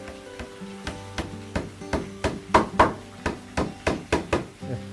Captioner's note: hammering sound